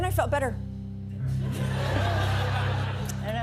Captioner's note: laughter